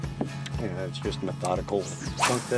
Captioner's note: fishing line whipping